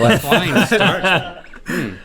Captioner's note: Rhett laughing